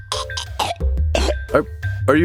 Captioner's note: gagging